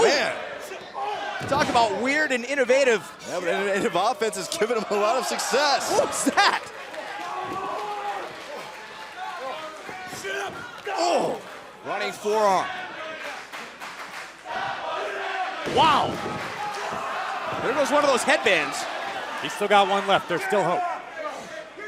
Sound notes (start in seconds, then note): 14.4 fans chanting